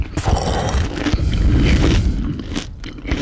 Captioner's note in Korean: 숨소리 asmr